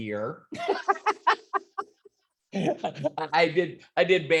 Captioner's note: laughs